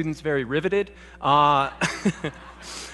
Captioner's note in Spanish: Risas